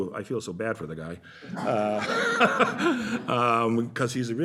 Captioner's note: laughter